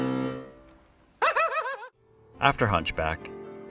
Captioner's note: obnoxious laughing